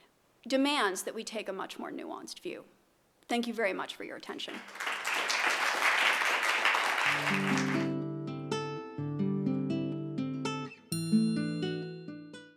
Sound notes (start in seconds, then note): 4.5 applause